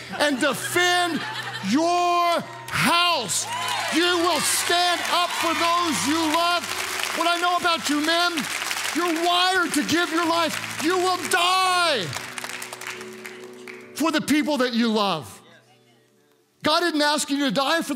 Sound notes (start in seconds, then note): 0.0 congregants laugh; 3.5 congregants cheer